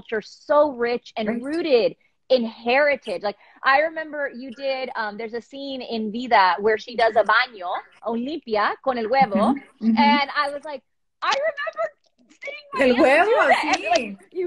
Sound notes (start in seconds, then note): 8.5 speaking spanish